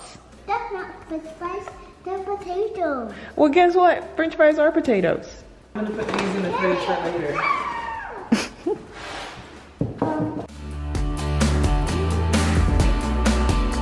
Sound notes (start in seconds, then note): 8.2 chuckling; 10.4 upbeat music